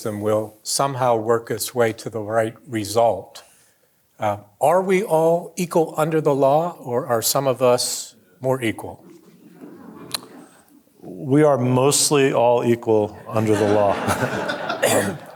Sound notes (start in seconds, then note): 9.0 audience quietly chuckling; 13.1 audience laughing